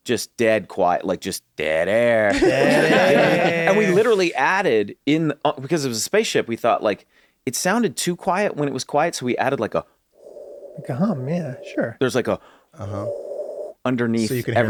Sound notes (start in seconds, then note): 2.3 laughter; 10.0 imitates engine hum; 12.9 imitates engine hum